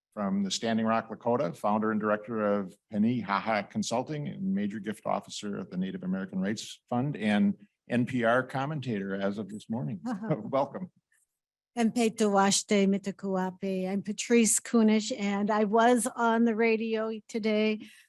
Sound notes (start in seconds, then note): 12.0 speaking in indigenous language